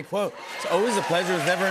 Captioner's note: cheers and applause